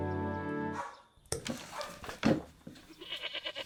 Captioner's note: loud thump outside